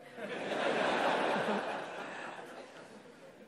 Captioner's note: audience laughter